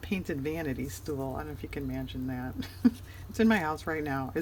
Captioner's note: laughs